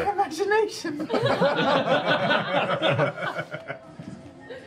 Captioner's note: laughter